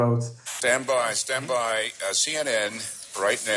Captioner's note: static hissing